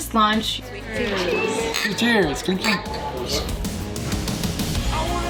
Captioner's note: glasses clink